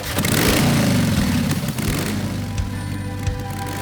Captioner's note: engine starts